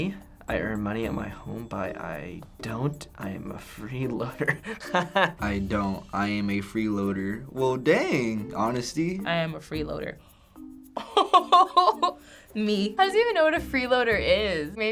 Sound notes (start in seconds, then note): 4.4 laughing; 10.3 gasping, laughing